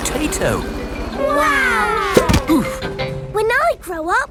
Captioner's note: crowd